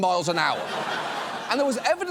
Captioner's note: audience laughs